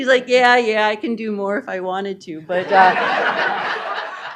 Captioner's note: laughter